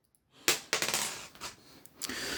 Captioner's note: screw dropped